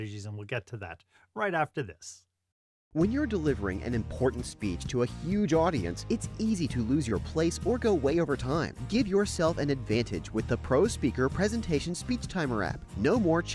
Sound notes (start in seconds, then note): 2.7 voiceover